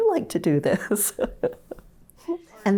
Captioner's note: laughs